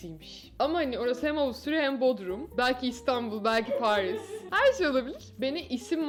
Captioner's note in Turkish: İdil güler